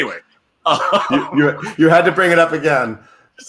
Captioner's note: laughs